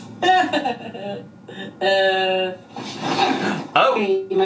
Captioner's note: imitates crying